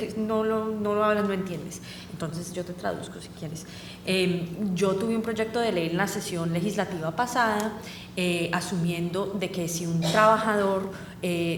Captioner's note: speaking spanish